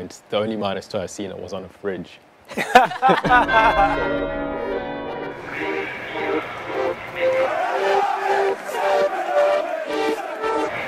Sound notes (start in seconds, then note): 2.5 everyone laughing; 3.2 church bells ringing; 7.9 crowds chanting